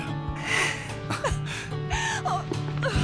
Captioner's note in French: soupir